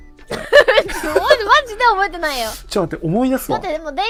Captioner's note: laughs